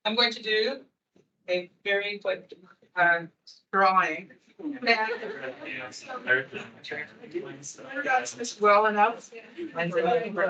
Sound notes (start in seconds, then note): 4.6 attendees chattering